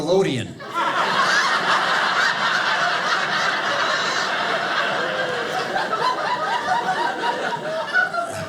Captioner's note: audience laughing